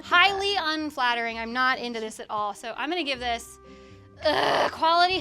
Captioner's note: groans